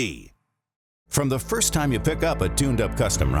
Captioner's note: voiceover